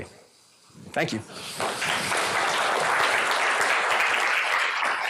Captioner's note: applause